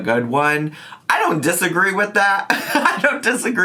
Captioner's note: laughs